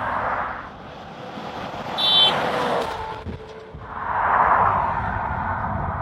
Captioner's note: car horn